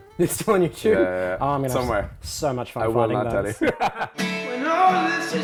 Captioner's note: both laugh